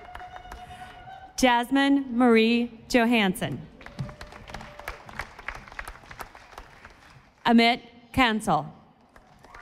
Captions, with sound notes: Jasmin Marie Johansen. (audience applauding) Amit Kansal.